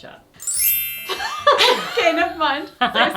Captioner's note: both laugh